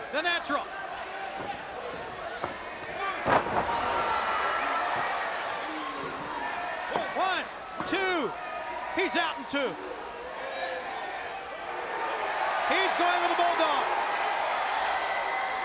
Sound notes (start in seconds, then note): 0.0 crowd cheering; 1.8 crowd chatter; 10.2 crowd chatter; 15.4 crowd cheering